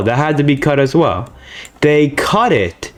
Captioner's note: inhales Oxygen